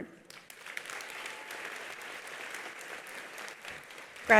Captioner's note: attendees applauding